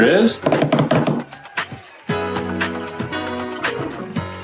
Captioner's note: drumming on table